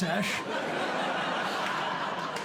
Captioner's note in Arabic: ضحك